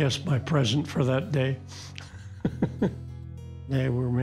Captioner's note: laughs